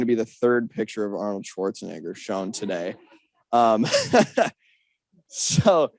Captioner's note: laughs